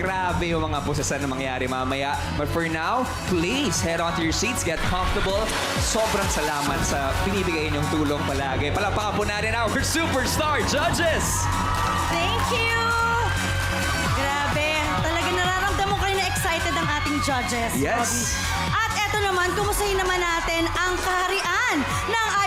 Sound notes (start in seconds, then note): 12.2 audience cheering